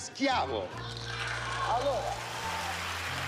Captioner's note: applause